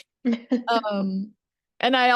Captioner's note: laughs